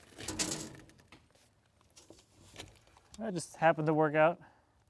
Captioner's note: metal scraping